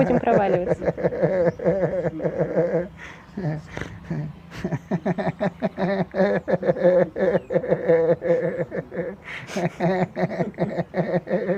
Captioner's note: laughing